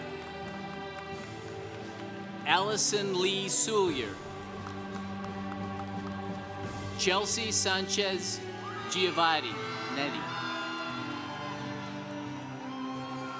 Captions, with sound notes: (congregation applauding) Allison Lee Soulier. (congregation applauding) Chelsea Sanchez Giovanni. (congregation cheering)